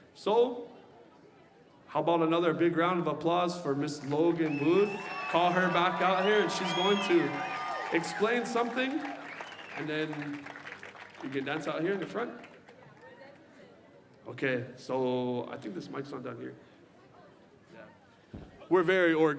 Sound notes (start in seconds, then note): 11.9 cheering and applause